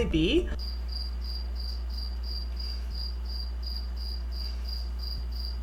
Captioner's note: crickets chirping